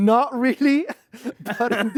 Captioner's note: laughs